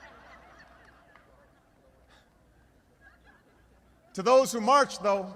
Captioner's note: laughter